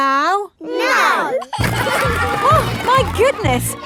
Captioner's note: giggling